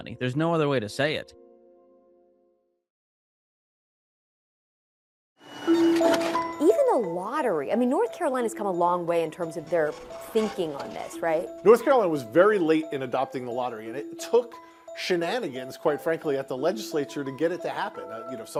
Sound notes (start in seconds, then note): 5.7 gentle music; 5.7 machine whirring